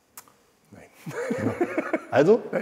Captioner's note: laughs